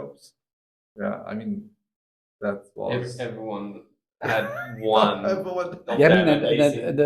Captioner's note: laugh